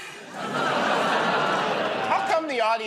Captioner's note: laughter, groaning